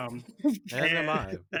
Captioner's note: laughing